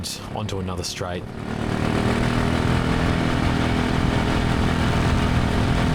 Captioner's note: engine revving